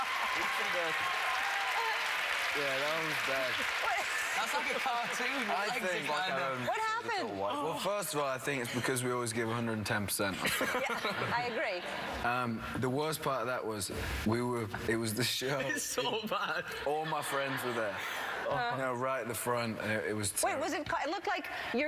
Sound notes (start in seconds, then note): 0.0 laughter; 3.0 cheers and applause